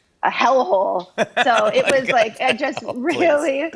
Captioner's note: laughs